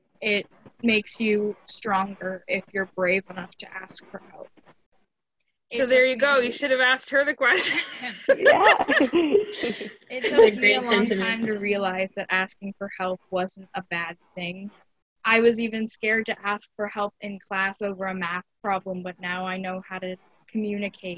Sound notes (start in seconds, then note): 7.5 laughing